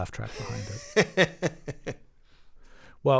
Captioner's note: laughter